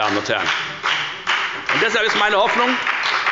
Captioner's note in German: Beifall bei der FDP